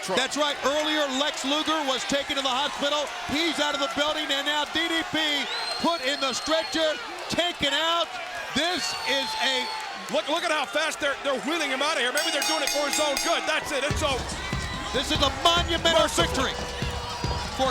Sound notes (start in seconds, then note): 12.2 bell ringing